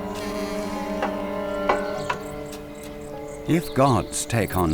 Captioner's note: door creaks